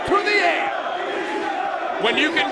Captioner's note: crowd chanting